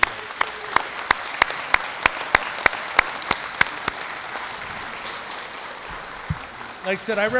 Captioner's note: applause